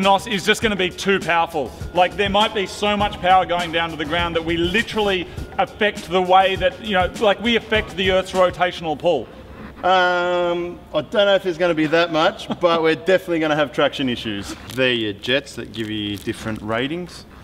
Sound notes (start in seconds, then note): 12.0 laughs